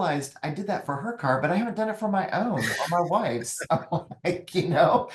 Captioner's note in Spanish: risas